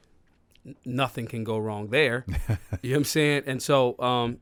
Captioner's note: laughs